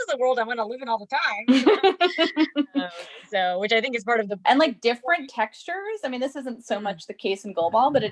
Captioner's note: laughs